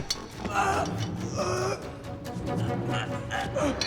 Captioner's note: both grunting